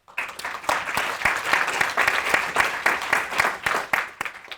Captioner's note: audience applauding